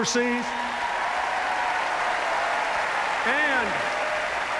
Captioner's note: cheers, applause